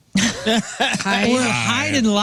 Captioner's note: laughing